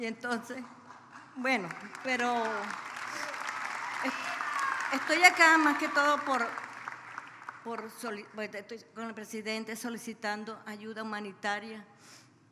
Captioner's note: speaks Spanish